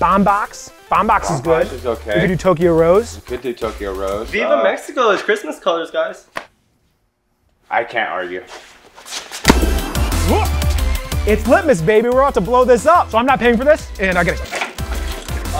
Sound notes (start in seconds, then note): 9.4 bang; 9.5 festive music